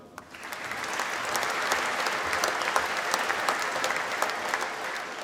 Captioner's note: applause